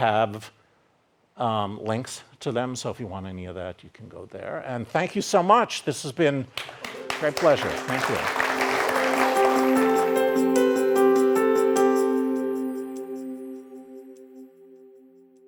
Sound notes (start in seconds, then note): 8.7 audience applauding; 8.7 upbeat piano music